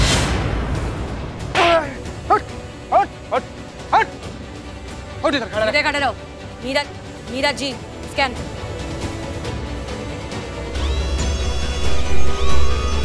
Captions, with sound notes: [slaps] Get up! - Get up. - Stand straight. Mira, scan him. [scanning]